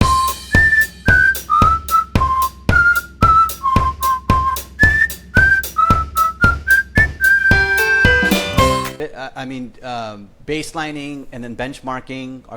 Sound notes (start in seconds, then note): 3.0 whistling